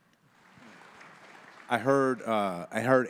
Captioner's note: audience applauding